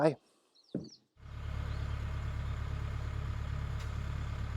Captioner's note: engine rumbling